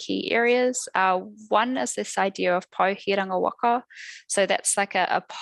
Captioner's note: non-english speech